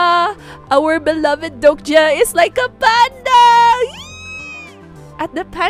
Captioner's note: squeals